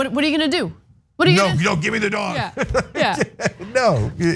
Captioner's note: laugh